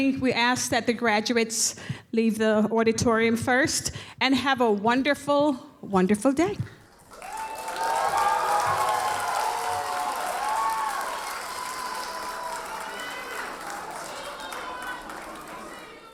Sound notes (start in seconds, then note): 6.9 audience cheers and applauds